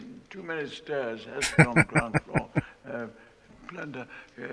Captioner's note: laughing